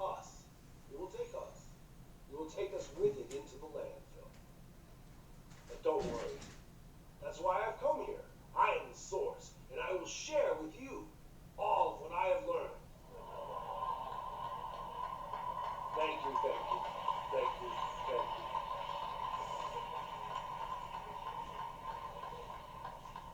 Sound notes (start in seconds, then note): 12.2 rising applause; 19.2 continuing applause